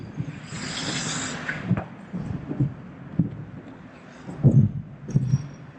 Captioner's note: skates and roof noise